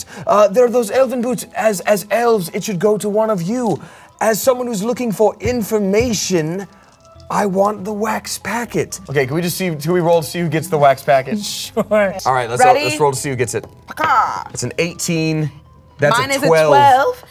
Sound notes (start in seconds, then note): 14.5 exclaiming